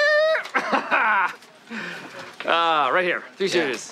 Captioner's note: laughter